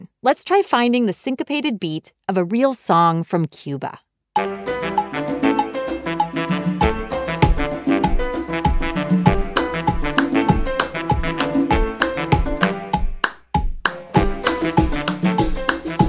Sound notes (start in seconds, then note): 4.4 upbeat music; 10.7 hands clapping